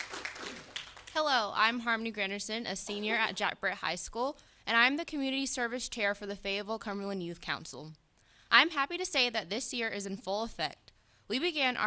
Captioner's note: applause